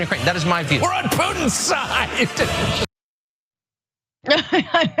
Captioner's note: laugh